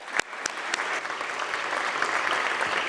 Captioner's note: applause